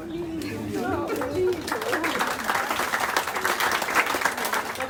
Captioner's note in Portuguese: aplausos